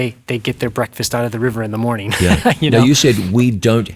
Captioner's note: chuckles